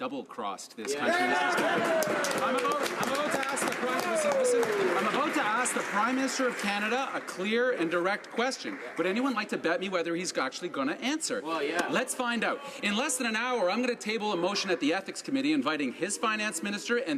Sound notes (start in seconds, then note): 5.5 some Applause